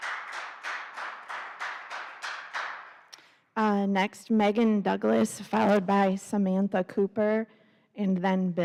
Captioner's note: applause